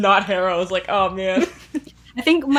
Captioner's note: laughing